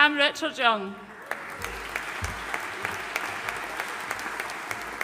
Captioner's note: audience applauding